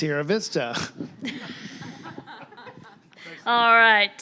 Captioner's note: audience laughing